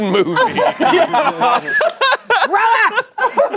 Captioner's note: everyone laughing